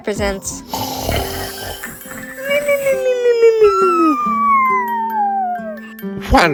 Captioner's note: snoring